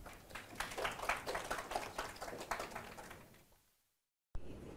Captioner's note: audience clapping